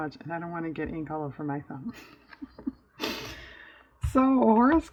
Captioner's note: laughs